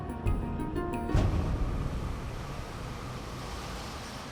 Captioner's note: car humming